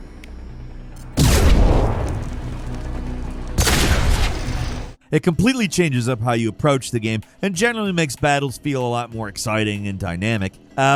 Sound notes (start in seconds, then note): 1.1 explosion booms; 3.5 gun blasting; 3.6 exciting music